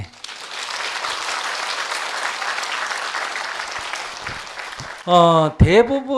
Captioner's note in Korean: 박수